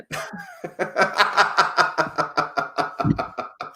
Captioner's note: laughs